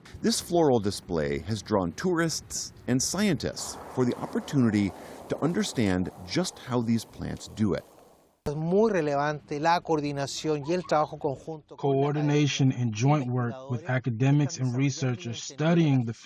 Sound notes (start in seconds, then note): 0.8 voice-over; 10.9 through translator